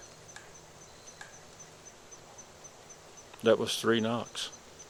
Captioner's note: knocks whacking distantly